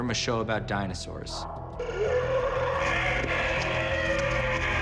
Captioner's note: dinosaur roaring